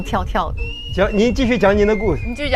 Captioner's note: heart beating fast